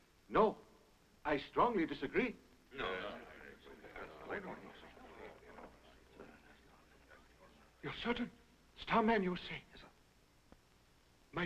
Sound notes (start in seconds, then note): 2.7 group chattering